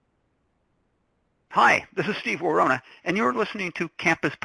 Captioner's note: voiceover